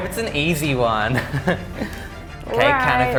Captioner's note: laughs